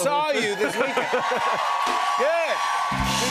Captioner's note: cheers and applause